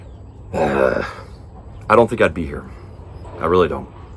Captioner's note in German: stöhnt